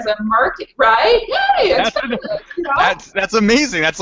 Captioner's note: audio skips